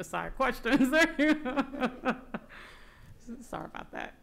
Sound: laughing

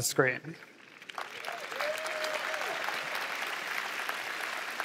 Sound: applause

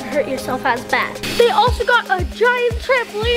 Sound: pump roaring

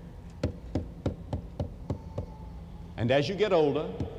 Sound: knocking sounds

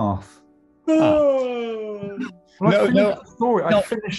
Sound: exaggerated yawn

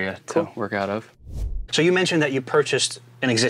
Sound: air swooshing

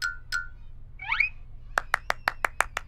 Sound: clapping

